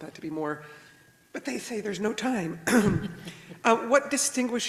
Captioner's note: clears throat